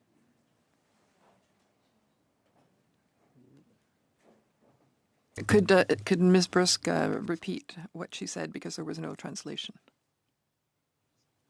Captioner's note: speaking French